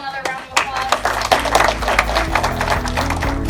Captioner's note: applause